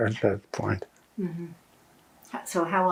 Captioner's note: laughing